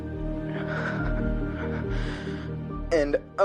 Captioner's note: breathing shakily